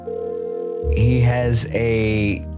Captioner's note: phone ringing